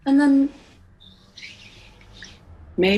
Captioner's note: chimes fade